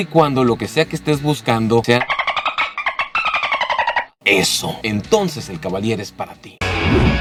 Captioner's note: dolphin sounds